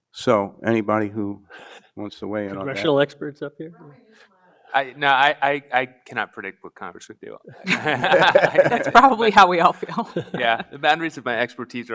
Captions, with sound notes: - So anybody who wants to weigh in on that? - Congressional experts up here? (woman speaks faintly) No, I cannot predict what Congress would do. (panelists laugh) - That's probably how we all feel. - Yeah, the boundaries of my expertise